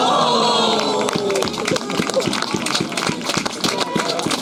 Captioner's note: applause